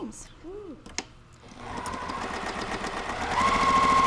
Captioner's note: machine sewing